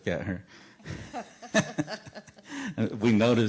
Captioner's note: laughter